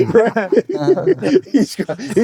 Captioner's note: laughing